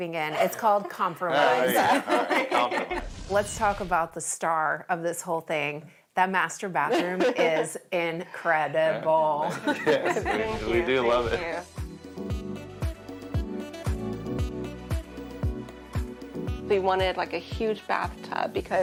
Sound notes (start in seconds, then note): 0.2 laughs; 8.6 laughs; 12.6 upbeat music